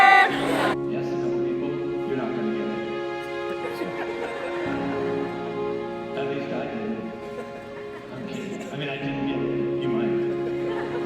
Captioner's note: Dr. Farmer is speaking lowly with music over his voice